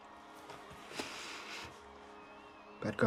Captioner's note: sniffs